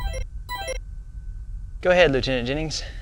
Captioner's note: computer alert sound